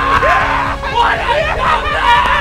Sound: yelling

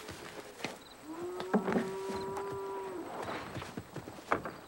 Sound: cows mooing

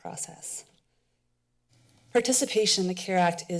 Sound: pause

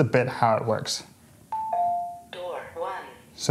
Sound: doorbell rings

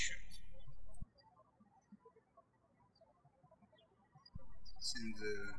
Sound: birds chirping

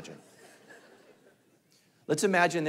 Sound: congregation laughing

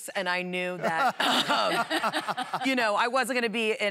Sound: laughter

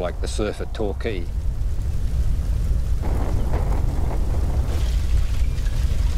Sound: fire roars

